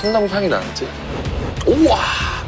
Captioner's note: sniff